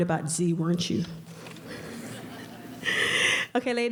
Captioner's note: audience laughter